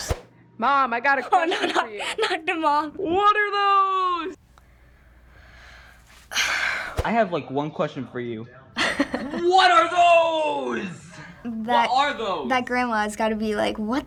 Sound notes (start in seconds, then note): 6.2 sighs deeply; 8.8 chuckles